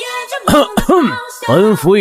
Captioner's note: cough cough